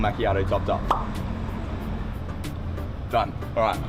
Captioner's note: pop